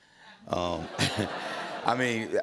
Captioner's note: laughter